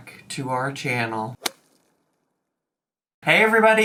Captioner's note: slapping sound effect